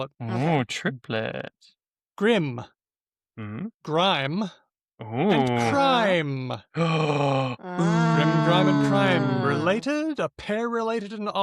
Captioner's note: collective oohs